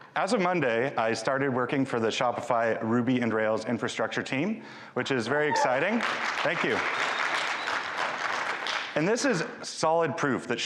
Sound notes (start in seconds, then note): 5.4 audience applauding